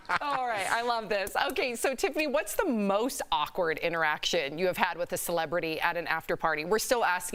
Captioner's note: laughter